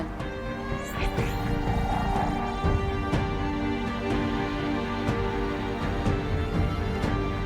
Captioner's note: suspenseful music continues; electricity whooshing